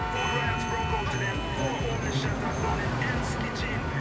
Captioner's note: car horns honk